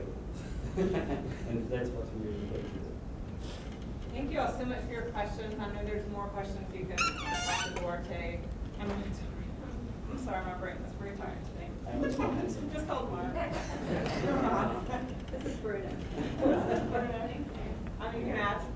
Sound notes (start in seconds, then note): 6.9 squeaking; 9.1 murmuring; 16.8 voiceover; 17.6 laughing